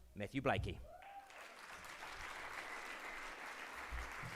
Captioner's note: crowd cheers